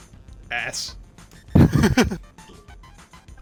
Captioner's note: laughs